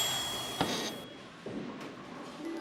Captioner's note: ding